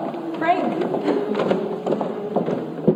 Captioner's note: offstage humming hymn